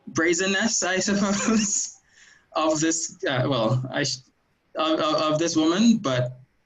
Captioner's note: chuckles